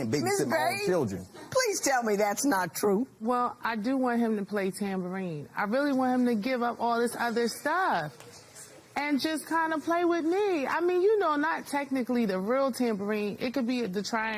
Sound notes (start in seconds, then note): none